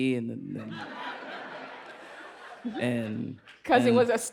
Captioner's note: laughter